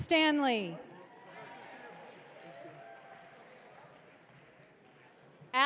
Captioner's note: audience cheering